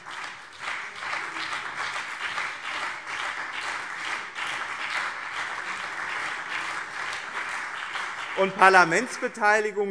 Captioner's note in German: Beifall BÜNDNIS 90/DIE GRÜNEN und CDU